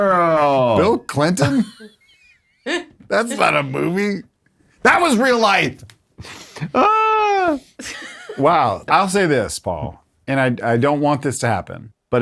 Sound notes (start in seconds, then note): 1.2 laughs; 6.2 all chuckles